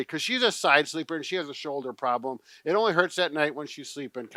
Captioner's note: none